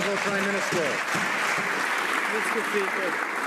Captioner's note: some Applause